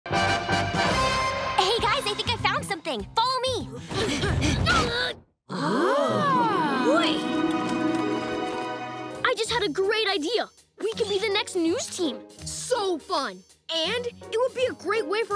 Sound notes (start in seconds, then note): 4.0 grunting; 5.5 gasping